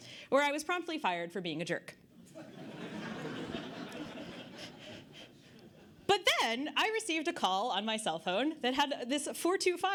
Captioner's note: audience Laughter